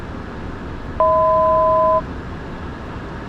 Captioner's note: 1,000 Foot Chime